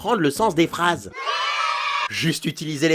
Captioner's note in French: Crie d'enfants joyeux